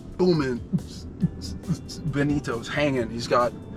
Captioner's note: beatboxing